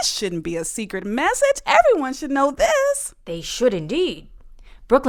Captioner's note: in British accent